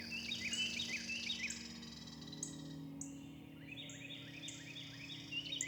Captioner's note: birdsong and insect chirping